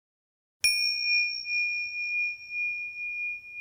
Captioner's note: bell rings